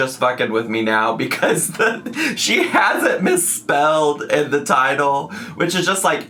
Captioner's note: laughs